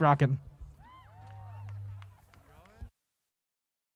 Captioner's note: audience applause